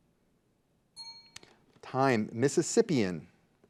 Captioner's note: bell dings